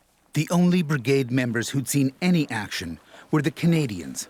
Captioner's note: voiceover